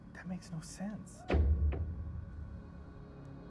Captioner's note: loud thud